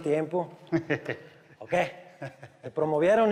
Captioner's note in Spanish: Risas